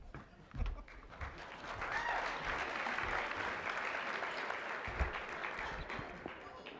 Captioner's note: applause